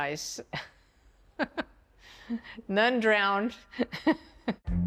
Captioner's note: chuckles